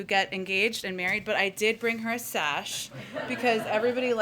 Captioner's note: laughter